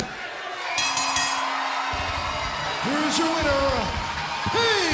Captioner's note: bell ringing